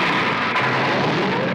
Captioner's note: roaring